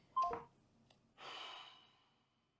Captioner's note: phone hangs up